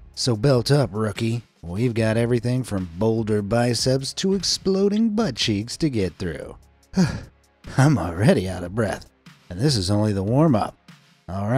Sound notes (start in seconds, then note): 6.9 narrator sighing